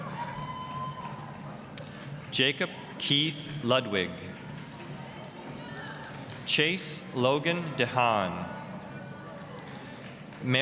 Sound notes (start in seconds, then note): 0.0 applause, cheering; 4.8 applause; 9.1 applause